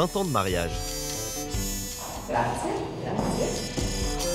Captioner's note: in Italian